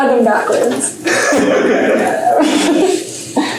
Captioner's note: laughter